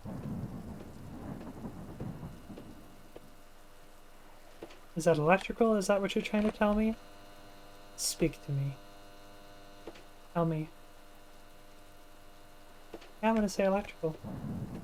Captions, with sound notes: is that electrical? is that what you're trying to tell me? (in a sultry voice) speak to me tell me i'm going to say electrical